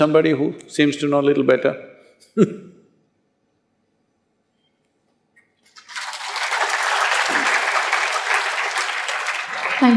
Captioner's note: laughs/Applause